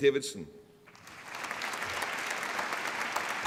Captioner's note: applause